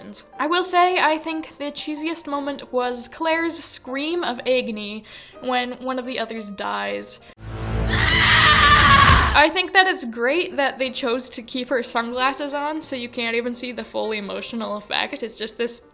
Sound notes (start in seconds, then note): 7.8 scream